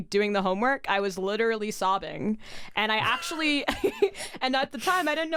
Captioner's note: laughs